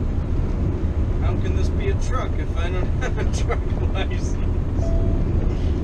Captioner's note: beep